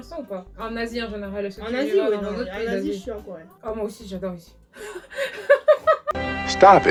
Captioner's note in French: rire incontrôlable sans raison aucune